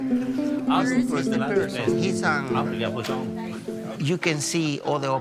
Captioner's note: folk music continuing; overlapping chatter